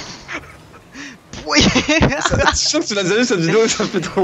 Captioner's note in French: rires